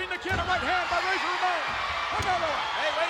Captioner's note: spectators cheering